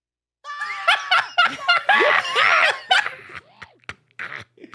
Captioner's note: Spongebob screaming; laughing